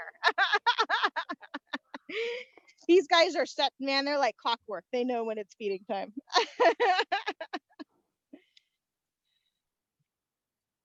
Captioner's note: laughter